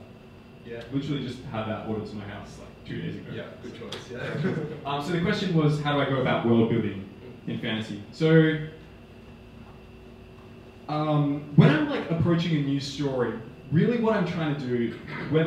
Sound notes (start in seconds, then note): 4.2 laughing